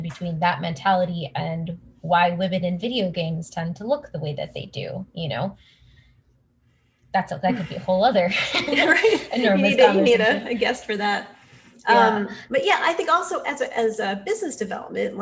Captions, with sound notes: between that mentality and why women in video games tend to look the way that they do, you know? That could be a whole other... (laughs) - And if you need to, you need a guest for that. But yeah, I think also as a business development,